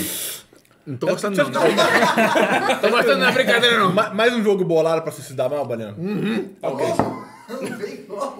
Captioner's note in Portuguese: risos; risos